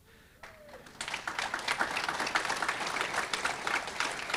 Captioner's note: audience clapping